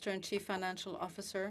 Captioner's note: speaking French